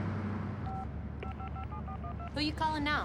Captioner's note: dialing